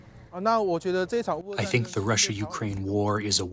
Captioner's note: through translator